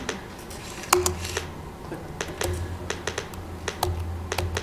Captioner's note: keyboard clicking